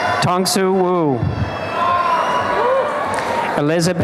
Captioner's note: applause and cheering